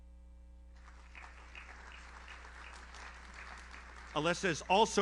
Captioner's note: audience applauds